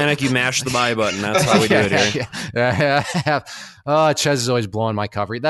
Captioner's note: laughs